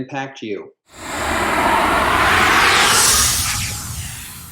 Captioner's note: air whooshing